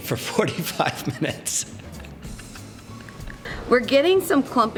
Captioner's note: laughter